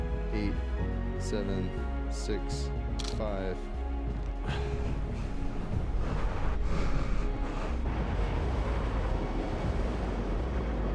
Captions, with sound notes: Eight, seven, six, five... (Whistling wind) (Snow storm)